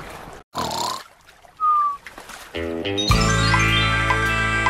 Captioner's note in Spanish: Sonido de ronquidos; Sonido de percución